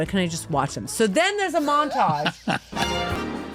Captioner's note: laughter